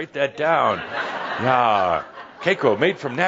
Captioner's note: more laughter